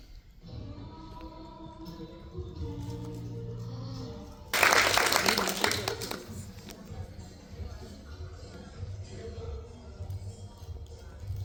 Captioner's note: applause